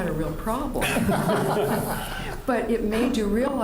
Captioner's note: laughter